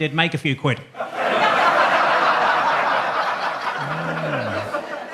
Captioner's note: audience laughs